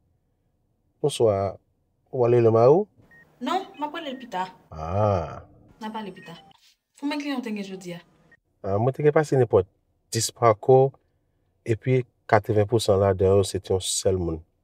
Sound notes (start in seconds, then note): 4.7 humms